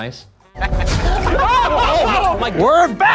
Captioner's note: laughing